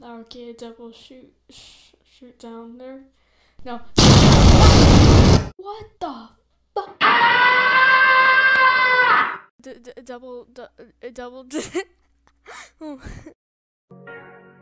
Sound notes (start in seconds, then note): 7.0 Tom Screaming Sound.mp3; 12.4 laughing